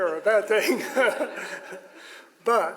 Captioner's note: all laugh